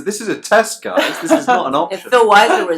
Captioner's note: laughs